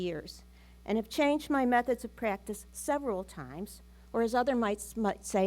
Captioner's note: none